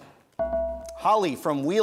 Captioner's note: bell rings